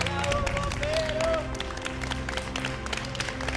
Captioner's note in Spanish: aplausos